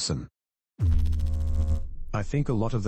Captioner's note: electrical noise